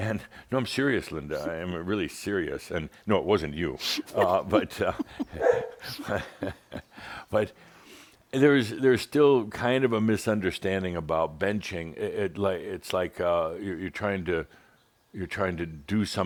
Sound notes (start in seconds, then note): 3.9 they chuckle and Belle barks